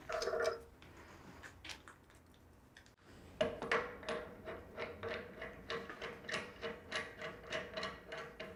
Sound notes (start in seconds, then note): 3.5 metal clanking